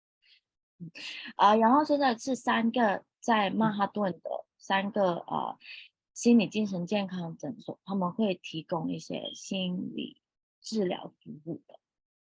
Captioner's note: speaking chinese